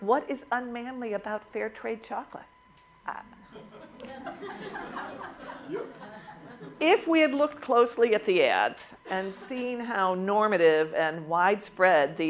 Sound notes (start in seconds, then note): 3.4 laughter